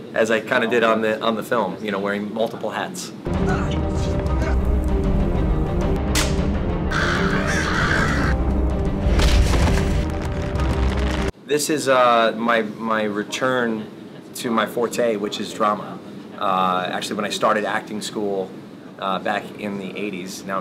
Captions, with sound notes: as I kinda did on the film, you know wearing multiple hats. (dramatic music) (crows screeching) This is my return to my forte which is drama. Actually when I started acting school back in the 80's,